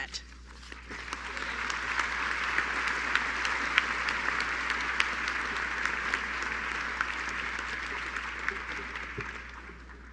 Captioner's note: applause